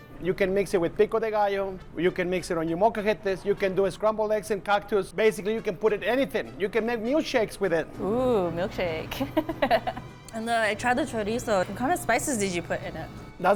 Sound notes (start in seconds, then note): 9.1 laughter